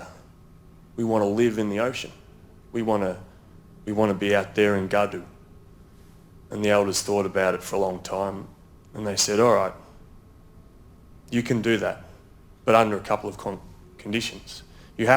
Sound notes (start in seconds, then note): 4.1 speaks in foreign language